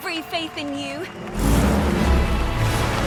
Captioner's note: truck engine revs